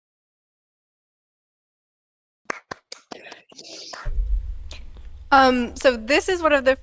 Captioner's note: applause